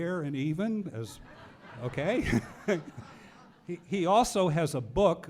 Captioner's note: audience laughing